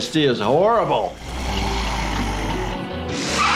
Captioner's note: Flippy growling; wheels squealing